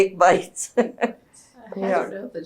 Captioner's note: laughs